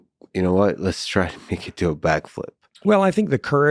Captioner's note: laughing